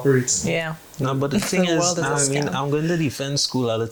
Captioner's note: laughs